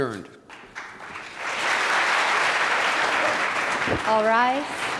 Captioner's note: applause